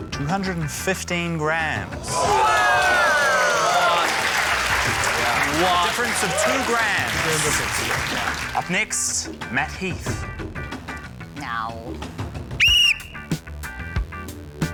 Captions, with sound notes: 215g. (CHEERING, APPLAUSE) - Wow! - What?! - A difference of two grams. - Two-gram difference. - Up next, Matt Heath. - Aww. - (BLOWS WHISTLE)